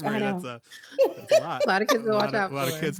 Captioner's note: laughing